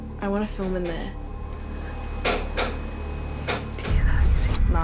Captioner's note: creaking gets louder